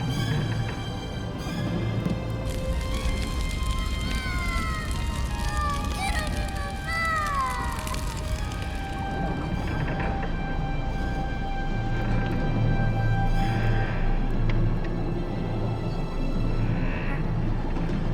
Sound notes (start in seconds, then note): 9.3 water gurgling; 14.4 tense suspenseful music